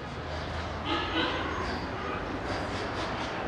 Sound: traffic noise

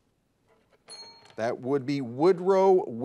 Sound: bell dings

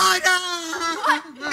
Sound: crying

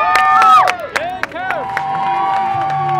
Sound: cheeers; cheers; clapping in background

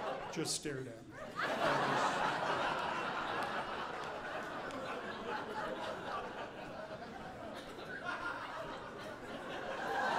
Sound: audience laughing

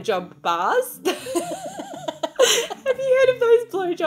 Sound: women laughing

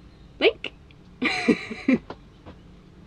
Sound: laughs

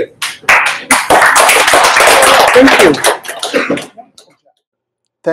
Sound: applause

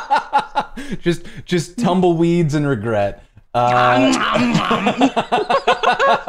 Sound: laughter

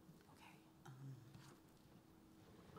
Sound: voiceover

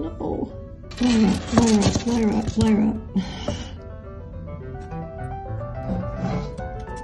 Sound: dejected sigh

